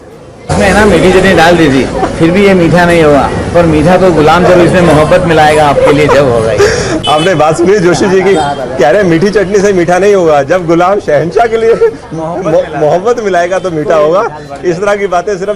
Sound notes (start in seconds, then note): 7.1 host laughing